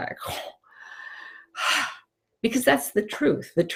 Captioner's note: sighs